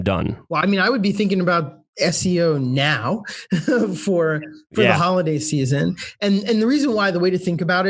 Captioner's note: laughs